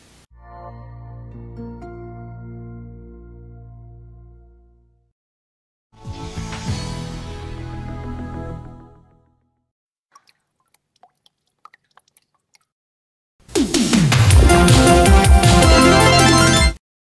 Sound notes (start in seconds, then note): 0.3 modern music plays; 5.7 modern soul music; 10.1 raindrops plopping on water